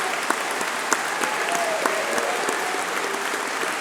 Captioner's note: applause